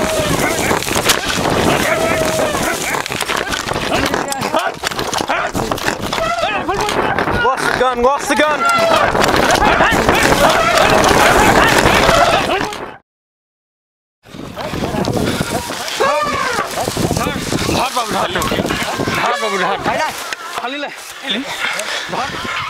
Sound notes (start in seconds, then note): 0.0 elephant trumpeting; 2.7 yelling in foreign language; 6.5 yelling; 10.5 yelling in foreign language; 18.0 elephant trumpeting; 18.5 speaking in foreign language